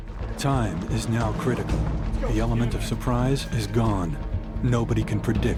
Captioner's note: voiceover